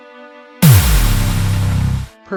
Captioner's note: nearby Explosion Noise